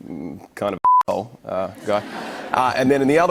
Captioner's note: laughter